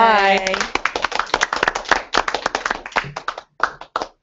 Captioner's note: applause